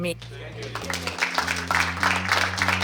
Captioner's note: applause